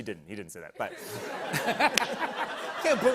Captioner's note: laughter